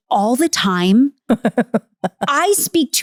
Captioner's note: laughing